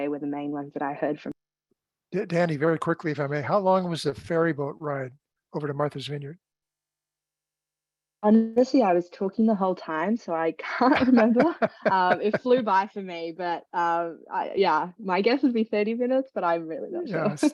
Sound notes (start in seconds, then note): 10.7 laughter